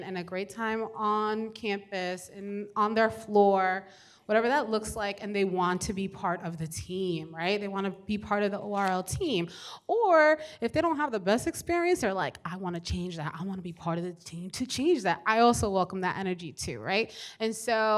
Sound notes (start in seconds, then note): none